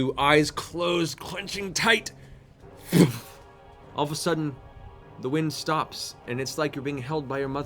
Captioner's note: impact